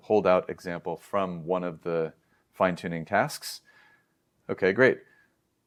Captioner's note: inhales